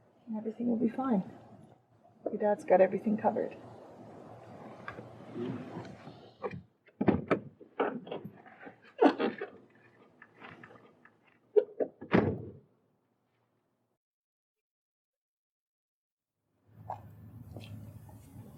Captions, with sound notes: and everything will be fine. Your dads got everything covered (Door opens) (Door slams)